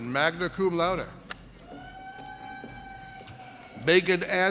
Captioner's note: audience cheers